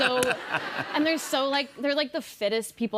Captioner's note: laughter